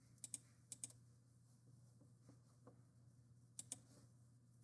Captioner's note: mouse clicking